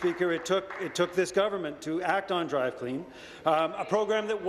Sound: applause

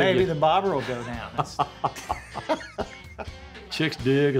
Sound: laughing jokingly

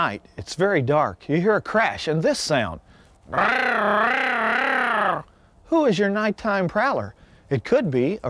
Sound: wildlife call

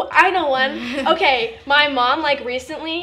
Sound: laughing

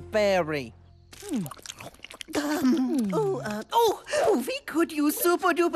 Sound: chewing

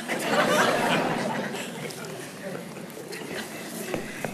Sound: congregation laughing

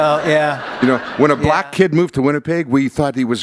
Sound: laughter

